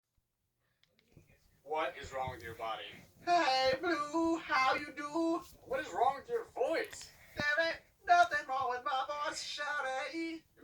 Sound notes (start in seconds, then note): 3.3 autotuned voice; 7.6 autotuned voice